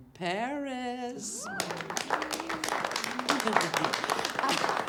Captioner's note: faculty applauds